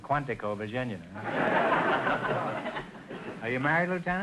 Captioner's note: audience laughter